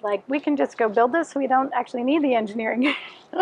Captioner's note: laughs